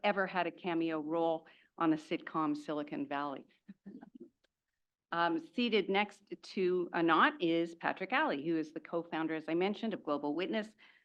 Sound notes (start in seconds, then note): 4.0 laugh